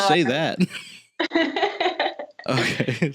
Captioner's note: small laugh; laughing